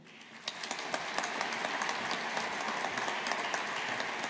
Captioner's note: audience applauding